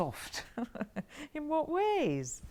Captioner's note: Aquila laughs